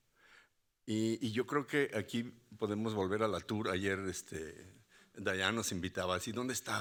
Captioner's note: speaking Spanish continues